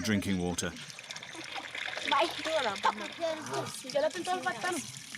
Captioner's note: indistinct chatters